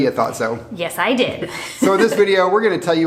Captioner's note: laughs